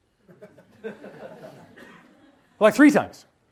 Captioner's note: audience laughs